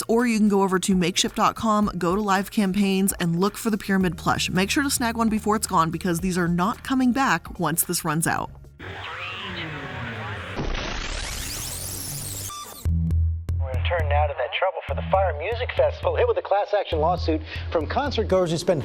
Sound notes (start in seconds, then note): 12.0 electronics zapping